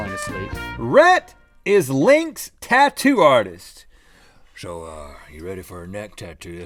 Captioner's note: southern accent